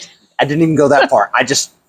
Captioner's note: laughs